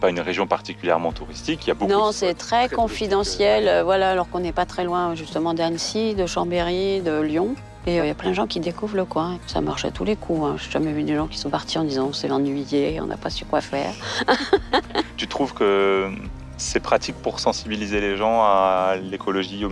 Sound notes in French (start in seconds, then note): 13.9 rires